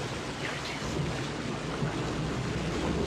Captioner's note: Jem whispers